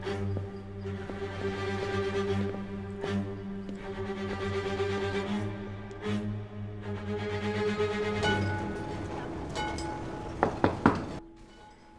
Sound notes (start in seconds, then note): 7.0 tram ringtones; 10.4 door knocking sound